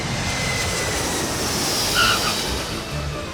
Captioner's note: tires squealing